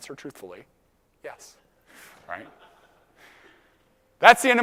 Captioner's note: laugh